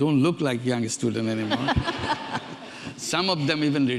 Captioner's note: audience laughing